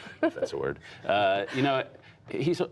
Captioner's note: laughter